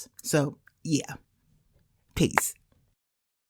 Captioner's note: slow, sarcastic clap